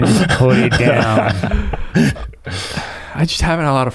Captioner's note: laughs